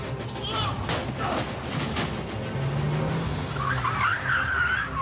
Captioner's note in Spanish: Quejidos; Chasquido de llantas